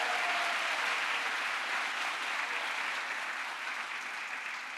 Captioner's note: crowd applause